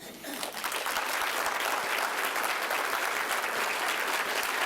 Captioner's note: applause